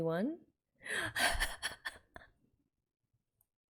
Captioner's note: laughs